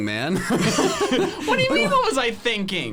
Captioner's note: both laughing